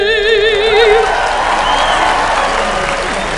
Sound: applause

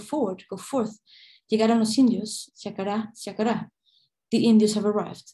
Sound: non-english speech

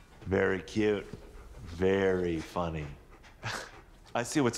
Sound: scoffs

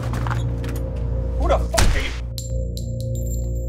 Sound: gunshot

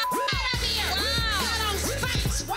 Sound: beep

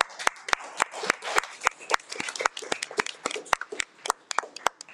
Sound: people clapping

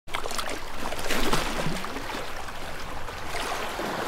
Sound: water sloshes

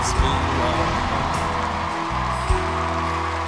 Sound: cheers and applause

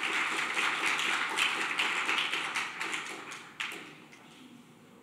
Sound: applause

